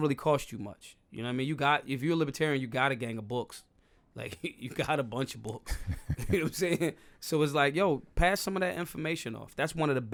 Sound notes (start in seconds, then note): 5.7 laughing